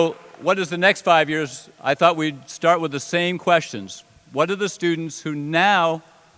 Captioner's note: applause